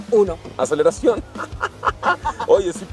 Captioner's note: laughter